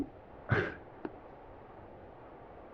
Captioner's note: assailant scoffs